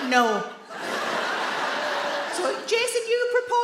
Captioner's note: audience laugh